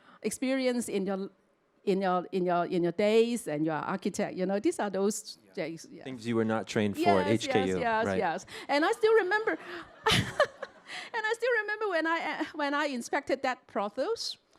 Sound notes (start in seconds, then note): 9.9 chuckles